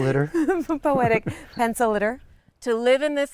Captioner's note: laughter